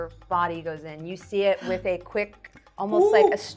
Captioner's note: gasping